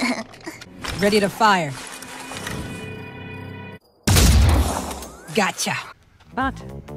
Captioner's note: gunshot